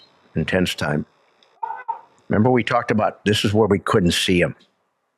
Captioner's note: whistle blows; handler shouts